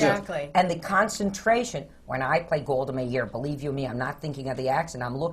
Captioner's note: does the voice